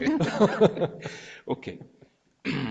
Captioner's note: laughing